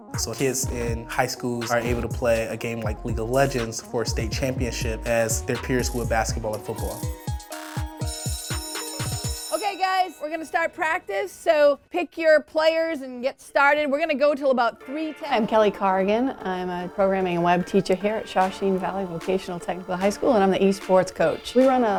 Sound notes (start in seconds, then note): 8.0 school bell rings